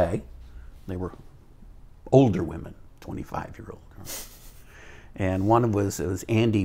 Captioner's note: chuckles